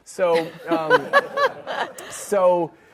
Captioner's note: audience laughs